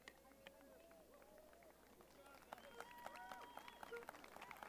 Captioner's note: cheering